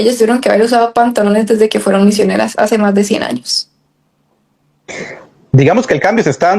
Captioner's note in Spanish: carraspeo